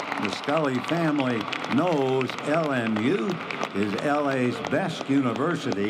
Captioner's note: applause